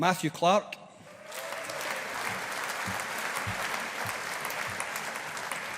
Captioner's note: audience applauding